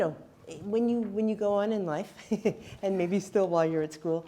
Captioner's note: chuckles